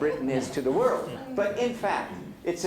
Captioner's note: laughter